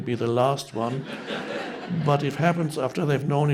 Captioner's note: audience members laughing